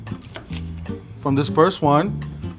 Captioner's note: egg roll crunching